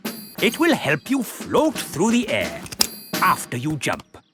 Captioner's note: clicking